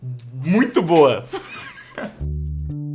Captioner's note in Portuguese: risos